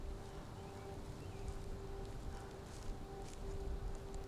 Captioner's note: birds singing